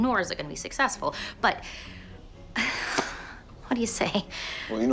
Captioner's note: sighs